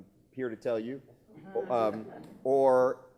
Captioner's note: laughing